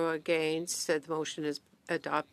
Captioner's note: speaking French